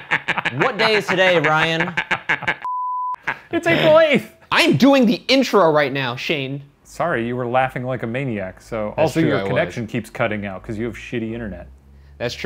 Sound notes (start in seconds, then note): 0.0 laughing; 2.6 beep